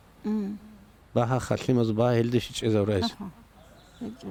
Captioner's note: speaks Avar